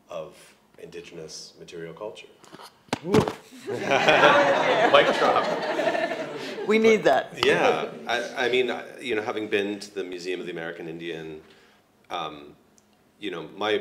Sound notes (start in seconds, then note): 2.4 mic drops; 3.6 crowd laughs